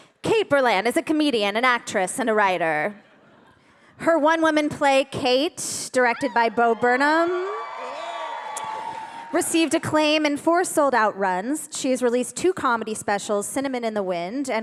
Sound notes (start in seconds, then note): 6.1 audience cheering